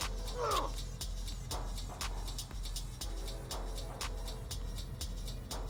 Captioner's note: person grunting; upbeat music